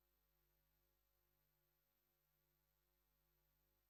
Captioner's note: none